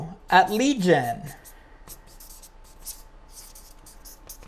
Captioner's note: pen writing